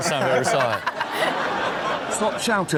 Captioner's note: all laugh